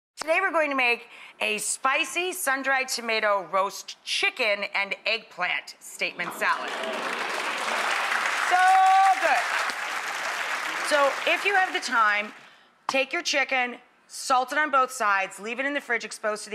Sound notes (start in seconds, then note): 6.2 audience applauds